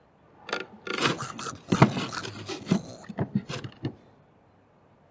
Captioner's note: animal snarling